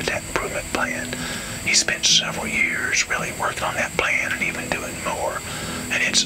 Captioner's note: whispering